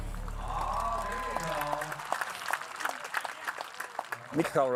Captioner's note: audience applauds